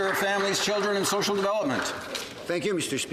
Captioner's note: some Applause